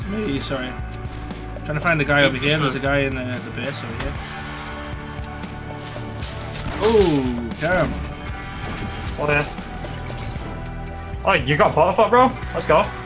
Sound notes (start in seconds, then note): 6.3 guns firing